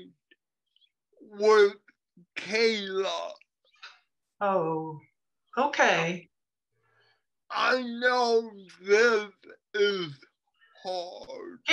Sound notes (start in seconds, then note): 4.0 confused